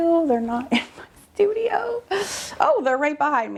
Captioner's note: laughing